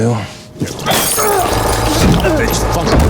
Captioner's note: glass shattering